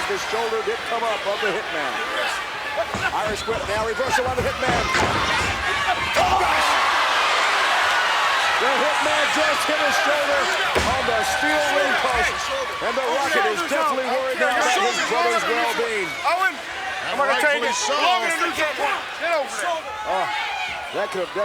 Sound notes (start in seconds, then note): 6.8 commentators exclaim